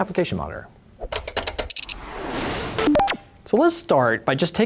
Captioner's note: keyboard clicking